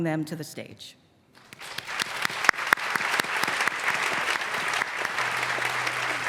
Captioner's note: applause